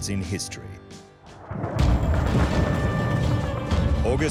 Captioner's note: explosions